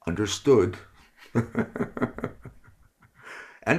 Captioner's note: chuckle